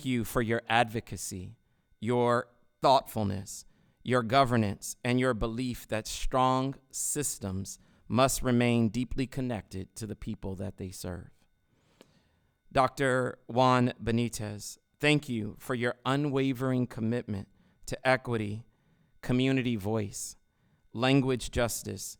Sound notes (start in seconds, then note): none